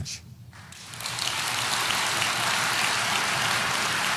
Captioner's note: audience applauding